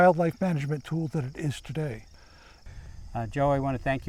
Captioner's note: crickets chirping